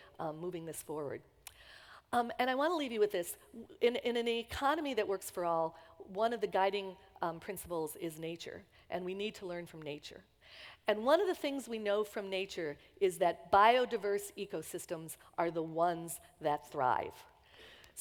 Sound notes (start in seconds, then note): none